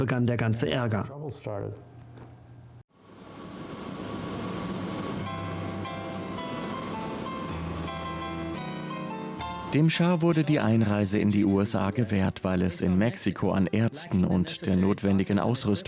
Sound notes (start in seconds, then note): 3.0 plane engine running; 5.3 upbeat instrumental music